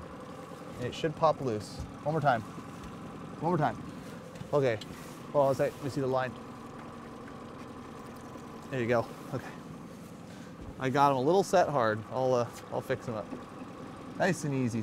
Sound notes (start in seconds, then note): 7.1 boat engine idling